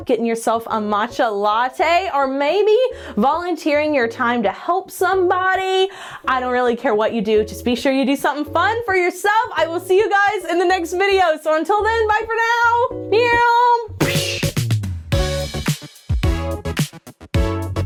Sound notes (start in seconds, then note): 13.0 mimic plane soaring; 14.0 mimics explosion; 15.0 upbeat music